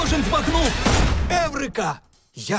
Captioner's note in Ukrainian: постріл